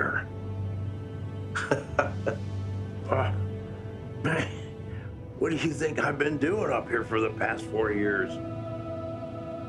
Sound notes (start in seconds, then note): 1.5 laughs